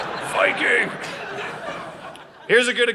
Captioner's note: audience laughing